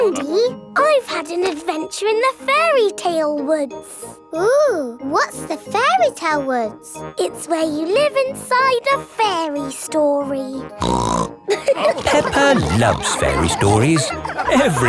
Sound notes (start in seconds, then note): 10.8 snorts; 11.5 all laughing